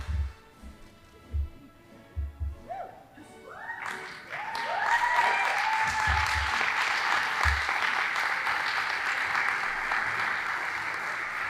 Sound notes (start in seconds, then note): 0.0 band playing; 3.6 audience applauding